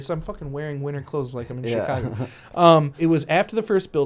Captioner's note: laughs